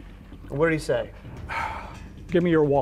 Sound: sighs

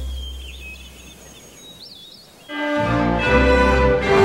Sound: birds chirping

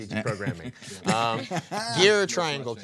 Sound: group chuckling; chuckling

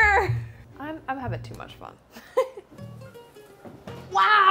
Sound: laughs

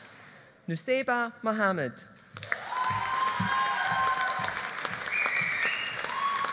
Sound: audience applauding

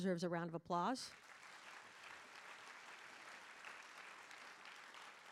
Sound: audience applauding

